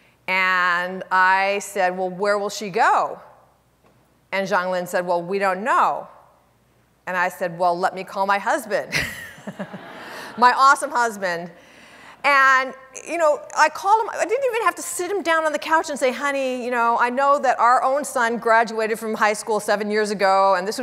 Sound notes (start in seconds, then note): 9.1 audience laughing; 9.2 laughs